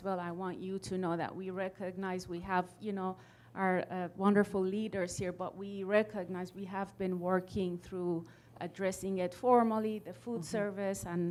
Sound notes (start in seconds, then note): none